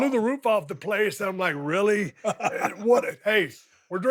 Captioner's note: Dallas laughs